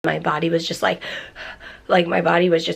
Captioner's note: gasping